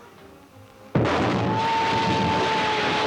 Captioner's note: explosion booming; Ollie screams